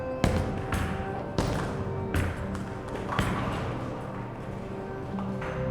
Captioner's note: bowling balls thudding